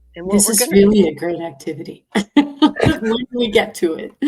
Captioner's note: laughs